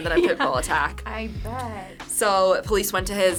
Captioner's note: laughs